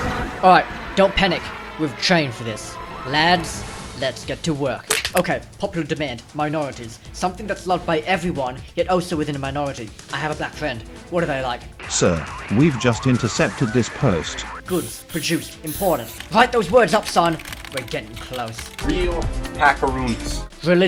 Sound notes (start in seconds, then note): 4.8 crack